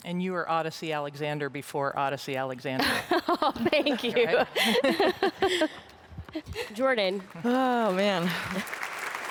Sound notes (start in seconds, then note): 6.3 laughs